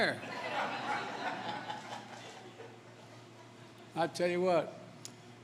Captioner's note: laughter